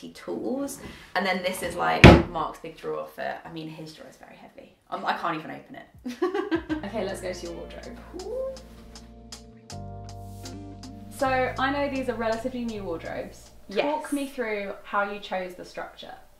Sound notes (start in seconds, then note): 6.1 laughing; 8.7 chill music